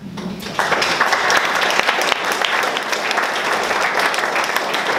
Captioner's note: audience clapping